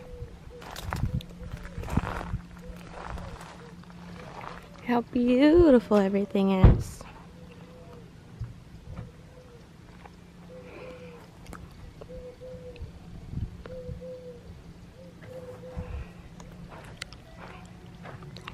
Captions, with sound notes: How beautiful everything is! [doves cooing in the background]